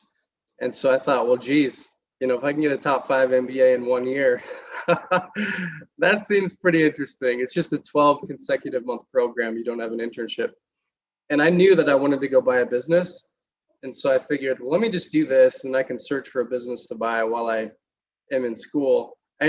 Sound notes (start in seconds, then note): 4.4 laughter